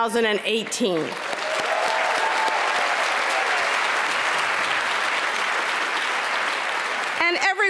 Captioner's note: applause